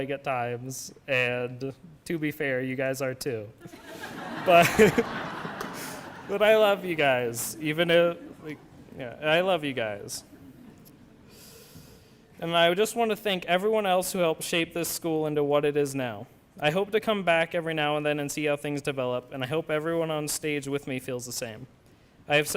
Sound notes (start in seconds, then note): 5.6 laughter